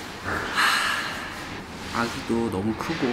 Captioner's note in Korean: 한숨 쉬는 소리